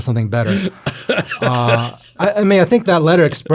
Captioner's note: speaker laughs